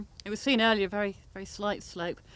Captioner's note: none